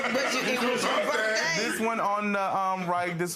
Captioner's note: laughing